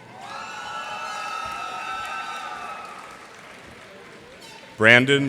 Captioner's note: cheers and applause